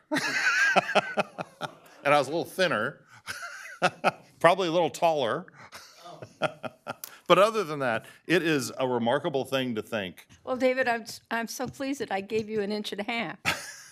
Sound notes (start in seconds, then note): 3.2 laughter; 5.8 laughter